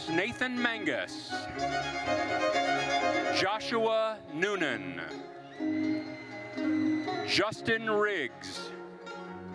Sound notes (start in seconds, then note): 1.8 lively orchestral music continues; 5.2 lively orchestral music continues; 5.5 attendees cheering